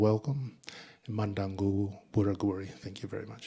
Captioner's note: speaking in Ngunnawal